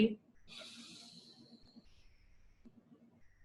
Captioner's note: inhales